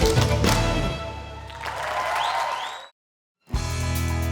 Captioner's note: applause